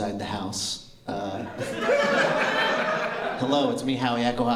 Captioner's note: laughter